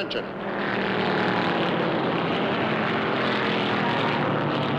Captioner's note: engines rumbling